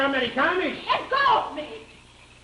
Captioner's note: speaks German